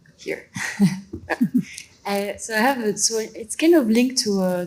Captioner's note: laughs